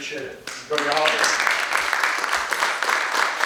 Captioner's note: audience applauds